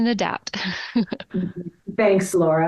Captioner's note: giggling